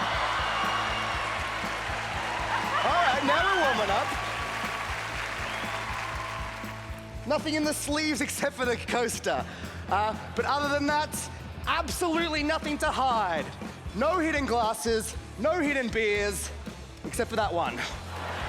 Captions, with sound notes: [cheering] All right. Now, the woman up. [applause] Nothing in the sleeves except for the coaster. Uh, but other than that, absolutely nothing to hide. No hidden glasses, no hidden beers except for that one.